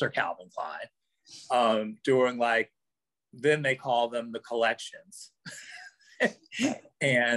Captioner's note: laughs